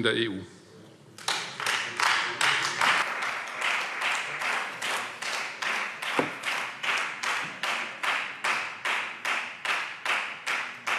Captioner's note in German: Beifall Freie Demokraten